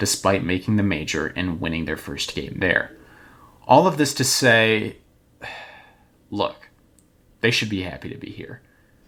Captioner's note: sigh